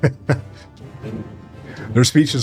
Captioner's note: laughing